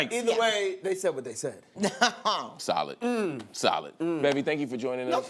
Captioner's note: laughs